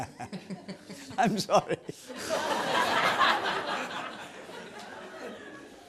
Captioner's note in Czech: smích